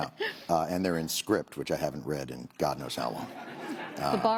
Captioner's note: laughter